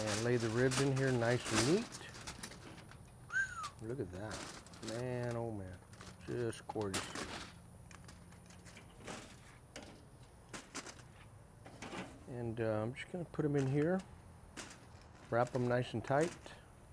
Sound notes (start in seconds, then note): 3.2 whistles